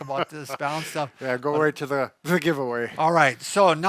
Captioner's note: laughs